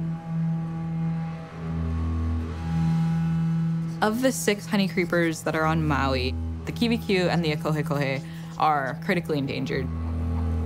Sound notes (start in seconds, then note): none